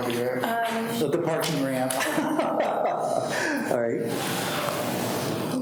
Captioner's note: people laughing